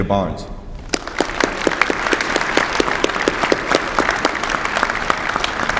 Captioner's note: applause